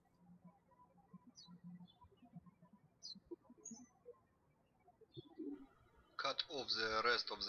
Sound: birds chirping

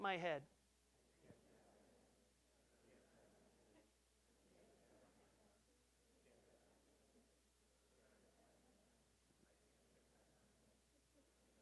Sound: audience murmuring

